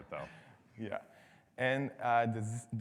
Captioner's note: laughs